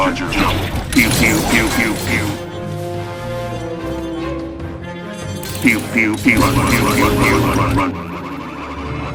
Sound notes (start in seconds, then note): 6.5 chef droids repeatedly shouting "RUN RUN RUN"